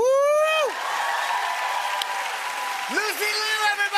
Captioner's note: cheers and applause